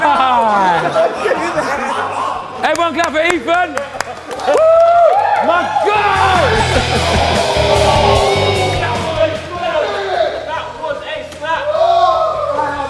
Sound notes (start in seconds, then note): 0.3 group laughs; 2.7 group applauds; 5.9 rock music begins